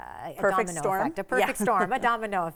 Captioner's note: chuckles